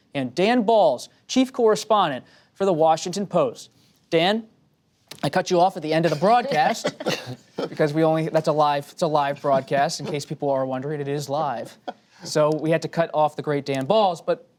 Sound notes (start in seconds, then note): 7.4 laughter